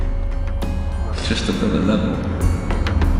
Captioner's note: echos